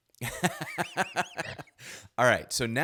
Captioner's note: chuckles